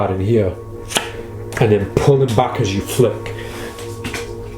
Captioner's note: cards clack